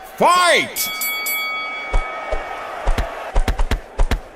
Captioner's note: bell dings; fists thumping